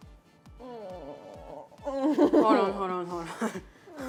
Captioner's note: gags